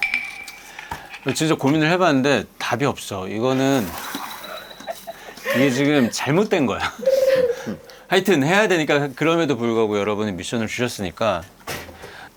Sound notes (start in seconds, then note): 5.6 complaining